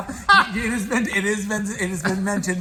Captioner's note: laughs